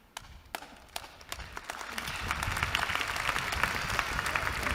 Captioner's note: applause